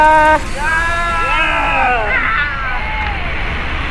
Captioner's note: cheers